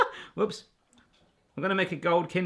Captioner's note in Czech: smích